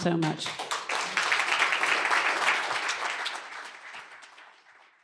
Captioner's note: applause